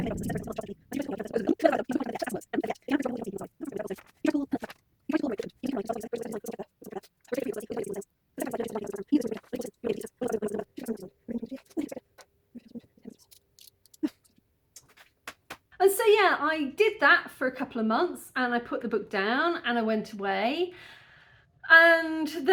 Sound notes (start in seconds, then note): 12.4 paper ruffle; 12.4 pen click